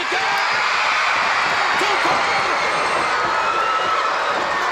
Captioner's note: audience cheering